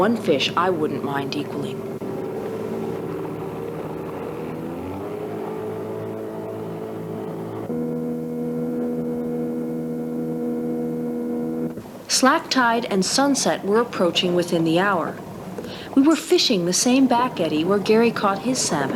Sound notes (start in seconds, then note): 3.7 water sounds